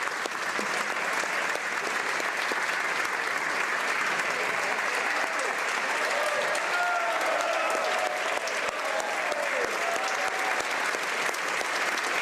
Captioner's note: applause